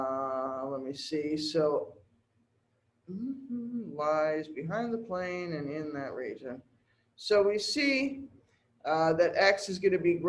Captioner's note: hmm